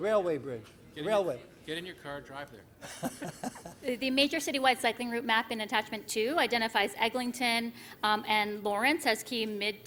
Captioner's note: laughter